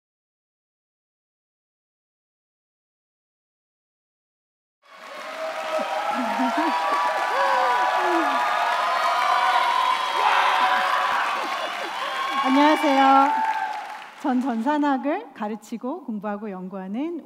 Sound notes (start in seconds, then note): 4.8 applause